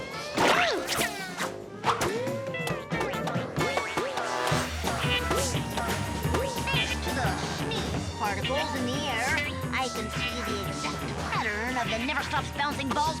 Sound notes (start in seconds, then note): 0.6 balls bouncing off walls